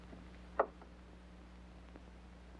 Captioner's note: none